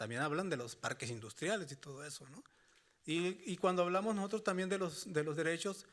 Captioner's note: speaking Spanish continues